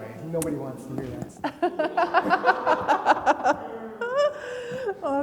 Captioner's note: laugh